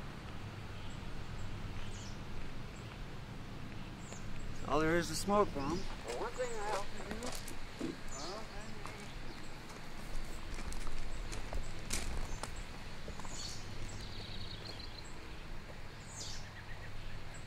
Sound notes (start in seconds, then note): 13.8 birds chirping